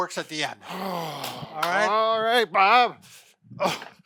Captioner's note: sighs